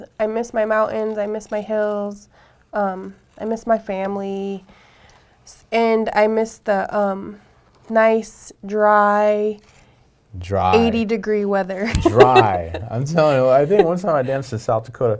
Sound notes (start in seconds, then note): 10.4 laughing